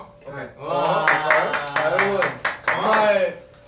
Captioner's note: clapping